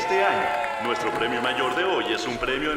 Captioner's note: audience cheers